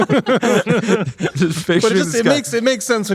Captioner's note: everyone laughing